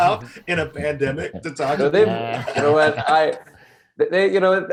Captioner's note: panelists laughing